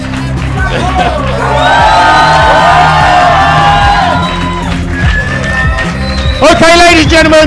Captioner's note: cheering